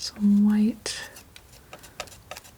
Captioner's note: scratching